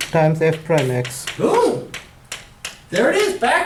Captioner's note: voiceover